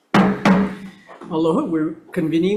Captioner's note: gavel banging